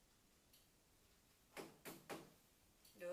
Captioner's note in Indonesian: Suara Pintu